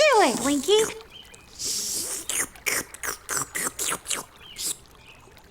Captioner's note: slurping soup